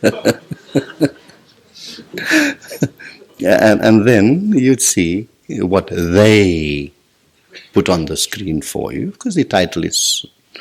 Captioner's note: general laughter